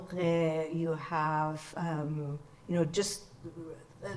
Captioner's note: speaks in foreign language